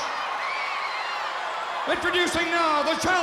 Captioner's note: crowd cheering